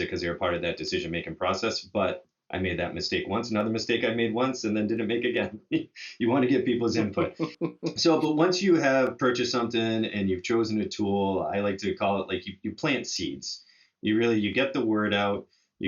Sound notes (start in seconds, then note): 7.5 laughs